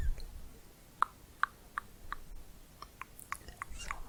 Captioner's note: tongue clicking